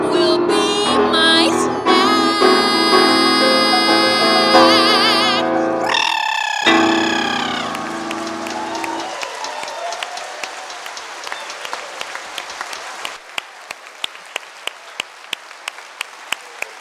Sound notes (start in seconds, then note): 5.7 trill noise; 6.6 applause